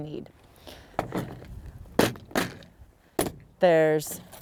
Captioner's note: tackle box thumping